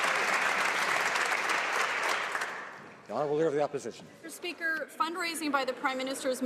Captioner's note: some Applause